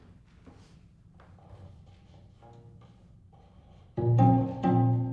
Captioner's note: instrument clanking